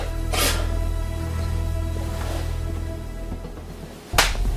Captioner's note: Adam inhales deeply; hands clap